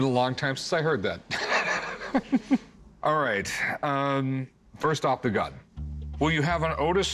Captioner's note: laughs